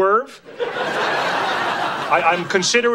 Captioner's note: audience laughing